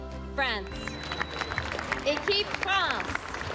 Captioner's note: speaking french; applause